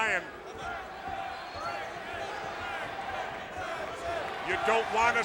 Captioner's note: audience cheering